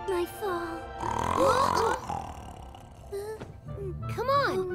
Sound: loud snoring; all gasping

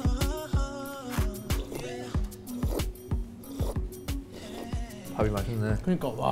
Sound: slurp

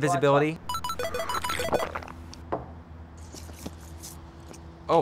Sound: phone chimes

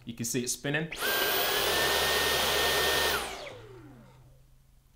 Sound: vacuum whirring

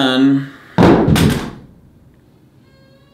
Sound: hammer falls down off-screen; Ada cries

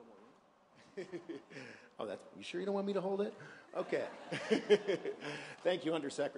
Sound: laughter

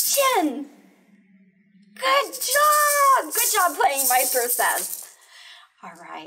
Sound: excited

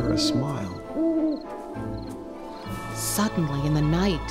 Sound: owl hoots

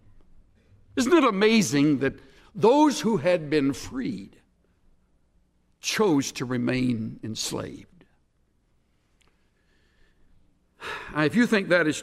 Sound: exhales for effect

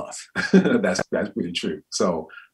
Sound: laughs

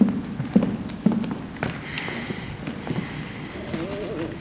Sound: foot steps receding

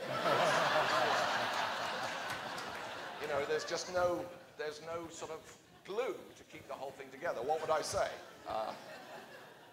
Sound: laughter

